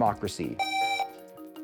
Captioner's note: buzzer